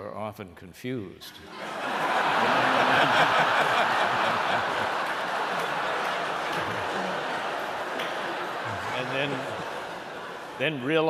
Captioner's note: laughter